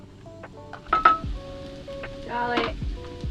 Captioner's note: cooking utensil clatter